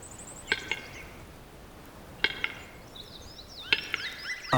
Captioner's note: bird makes clicking sound